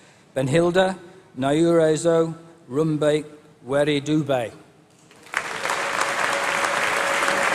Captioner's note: applause